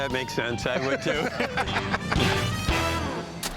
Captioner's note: laughter